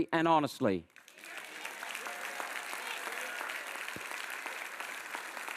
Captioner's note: audience applauds and cheers